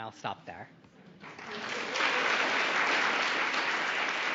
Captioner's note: applause